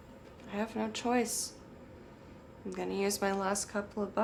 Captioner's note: none